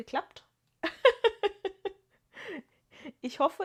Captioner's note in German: gelächter